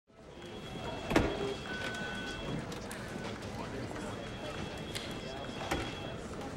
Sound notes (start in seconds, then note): 0.2 quiet talking; 0.4 phones ringing